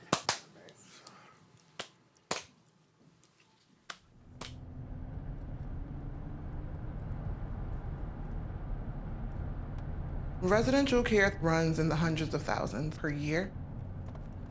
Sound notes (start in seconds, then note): 7.0 engine humming